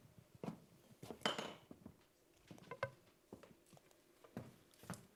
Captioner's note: object clanking